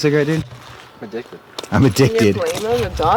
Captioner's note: mocking